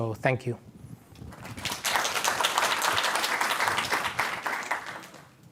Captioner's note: applause